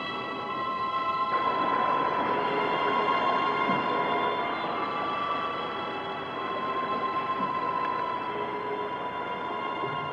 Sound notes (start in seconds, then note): 0.2 water gushing